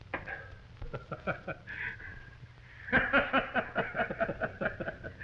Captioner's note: Nate and John laughing